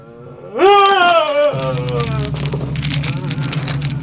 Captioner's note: monster yelling